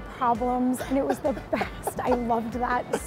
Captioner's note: laughs